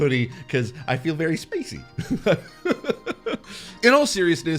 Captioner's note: laughing